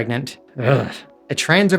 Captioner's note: urghhh